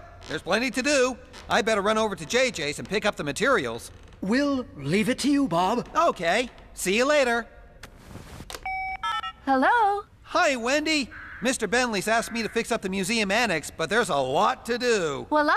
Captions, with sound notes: WELL, THERE'S PLENTY TO DO! I'D BETTER RUN OVER TO JJ'S AND PICK UP THE MATERIALS. WE'LL LEAVE IT TO YOU, BOB. OKAY, SEE YOU LATER. ( Cell Phone Tones ) HELLO? HI, WENDY. MR. BENTLEY'S ASKED ME TO FIX UP THE MUSEUM ANNEX, BUT THERE'S A LOT TO DO.